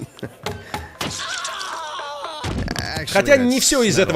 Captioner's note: knife chopping; man screams, body thuds